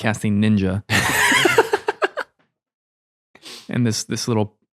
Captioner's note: laughing